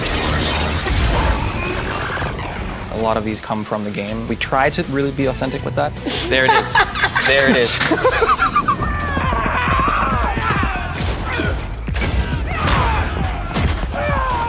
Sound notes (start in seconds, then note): 8.9 fighters grunt; 12.1 metal clashes